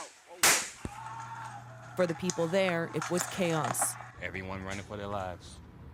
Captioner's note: gunshots